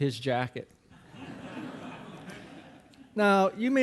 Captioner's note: audience laughing